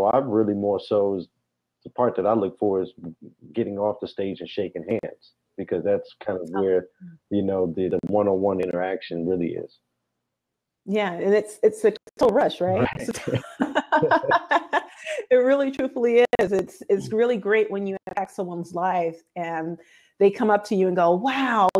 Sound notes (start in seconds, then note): 15.1 laughs